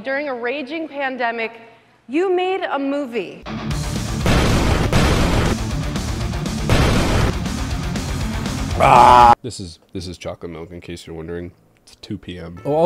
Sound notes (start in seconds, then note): 3.4 rock music; 6.6 explosions